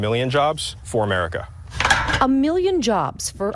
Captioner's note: clanking